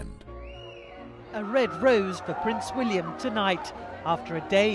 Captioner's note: voiceover